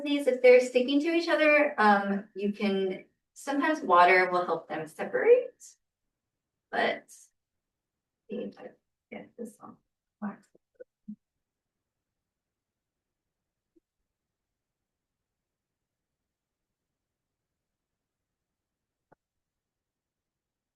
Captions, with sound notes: these, if they're sticking to each other, sometimes water will help them separate. [pause]